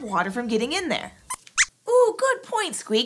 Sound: squeaks squeaks

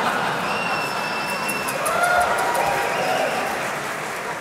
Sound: audience laughing; audience cheering

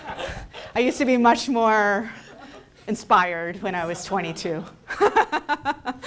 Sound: audience laughing; laughing

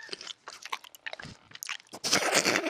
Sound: holding in laughter

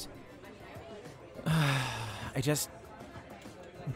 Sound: sighs

